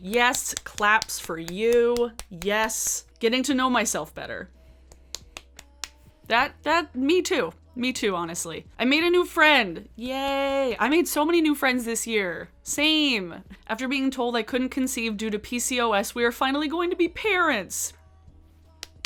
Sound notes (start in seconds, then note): 5.1 claps